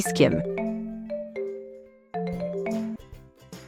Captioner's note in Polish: dzwonek telefonu